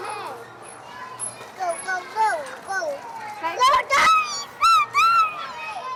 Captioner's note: indistinct chatter